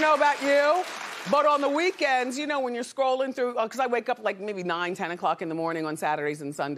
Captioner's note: applause